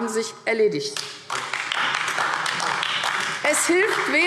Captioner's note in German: Beifall AfD